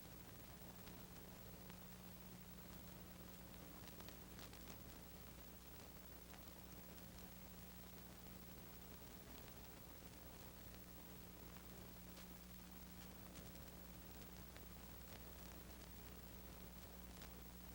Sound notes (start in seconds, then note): none